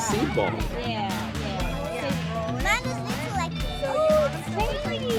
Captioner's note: group chattering